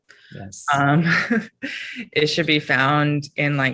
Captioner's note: chuckles